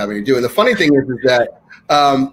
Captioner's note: laughing